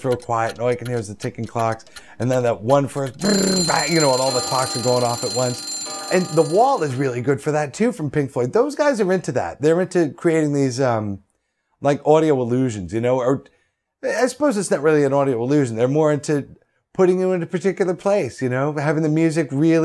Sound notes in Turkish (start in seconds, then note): 1.6 alarm çalar